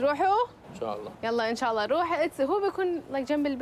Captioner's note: non-english speech